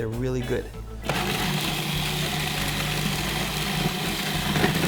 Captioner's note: blender grinds